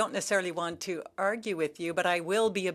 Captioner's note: speaking French